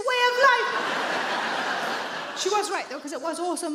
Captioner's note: audience laughing